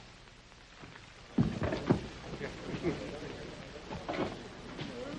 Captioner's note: crowd chattering